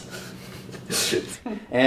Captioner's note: giggles